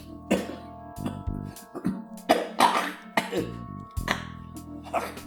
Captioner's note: coughing